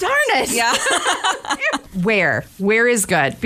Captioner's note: laughter